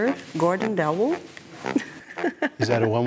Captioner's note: laughs